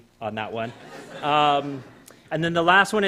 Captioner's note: laughter